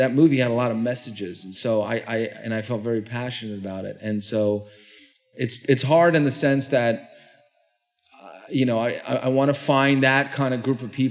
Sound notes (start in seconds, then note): none